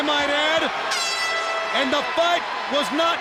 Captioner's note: air horn blows